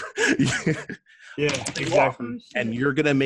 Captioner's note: laughter